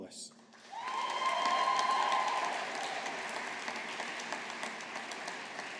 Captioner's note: audience applauding